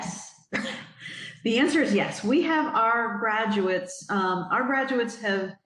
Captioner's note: giggles